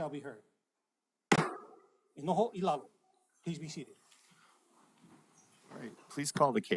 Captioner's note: gavel bangs once